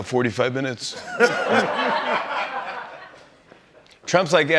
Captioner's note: laughter